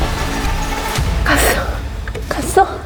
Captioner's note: hoarse whisper